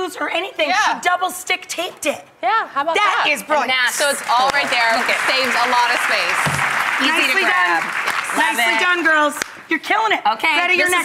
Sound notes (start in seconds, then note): 4.0 applause